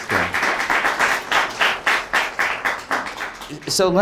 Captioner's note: audience applauds